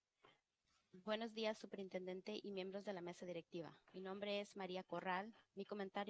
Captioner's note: speaking in foreign language